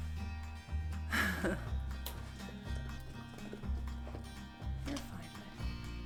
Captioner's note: laughs